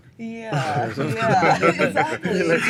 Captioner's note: laughter